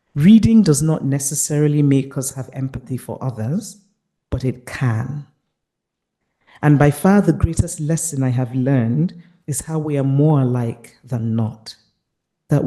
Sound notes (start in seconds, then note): none